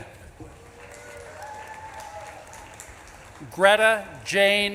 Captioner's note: audience claps and cheers